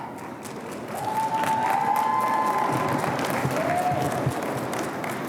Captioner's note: audience applauding